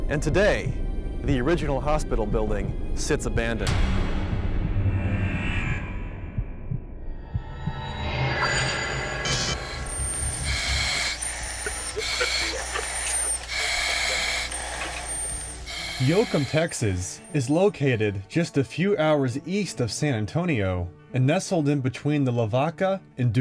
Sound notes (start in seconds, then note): 3.9 creepy music; 9.6 heavy breathing